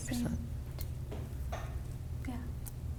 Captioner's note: quietly